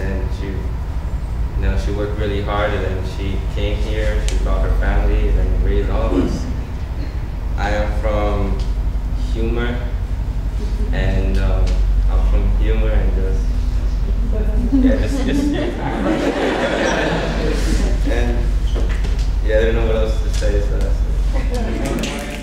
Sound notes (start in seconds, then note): 16.2 audience laughing; 22.1 snapping